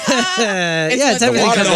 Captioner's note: laughter